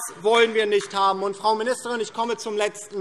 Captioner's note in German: Beifall DIE LINKE